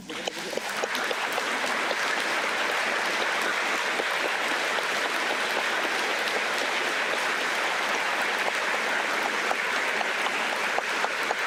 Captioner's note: applause